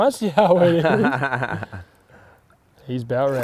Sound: chuckles

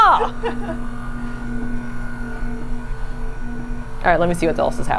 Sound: machine whirring continues

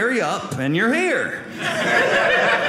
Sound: audience laughing

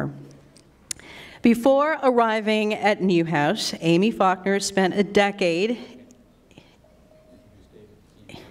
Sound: laughs

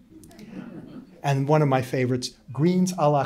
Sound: laughter

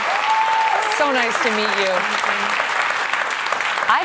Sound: applause

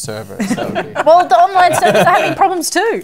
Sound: laughter

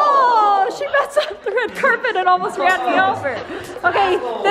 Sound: dogs playing

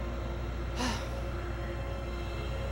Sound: Ashley sighs

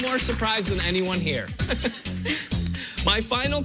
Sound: laughs

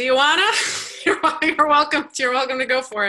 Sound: laugh

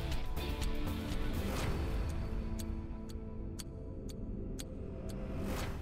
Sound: dramatic music; clock ticking

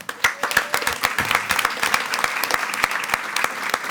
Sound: attendees clapping

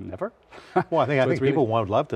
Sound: chuckles

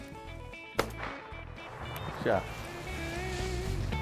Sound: shot goes off; upbeat country music

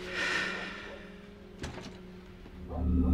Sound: door movement

